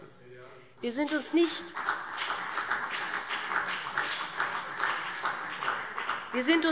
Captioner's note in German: Beifall BÜNDNIS 90/DIE GRÜNEN und DIE LINKE